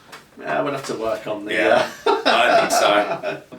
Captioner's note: laughs